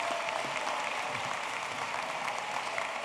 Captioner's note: applause